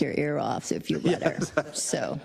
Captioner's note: laugh